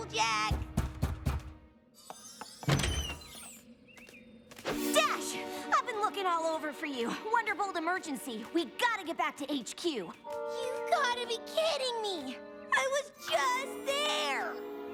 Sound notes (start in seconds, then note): 2.3 knock on door